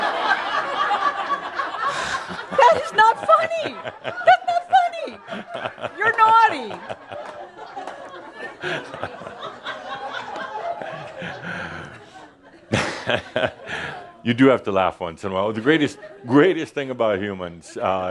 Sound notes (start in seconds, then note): 9.2 Adamus is laughing